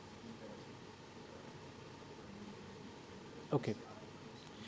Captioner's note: man speaking in background